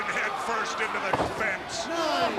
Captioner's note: crowd cheering